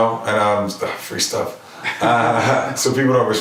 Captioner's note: laughing